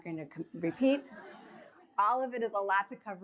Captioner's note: audience chuckles